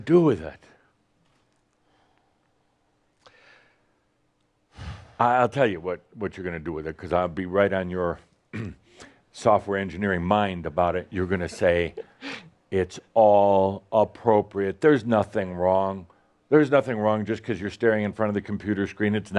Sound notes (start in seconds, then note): 1.7 sighs